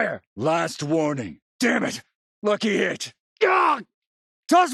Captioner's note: pain cry